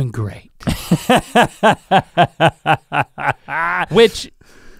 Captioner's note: Rhett laughing